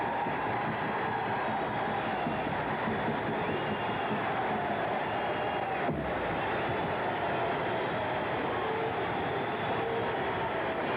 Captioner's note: applause